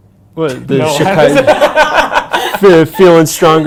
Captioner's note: incoherent laughing